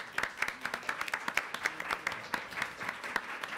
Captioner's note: applause